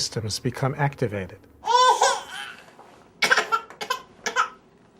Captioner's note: baby crying